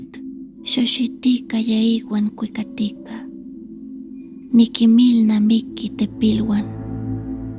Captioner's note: Speaking Nahuatl